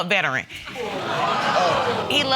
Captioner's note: audience groaning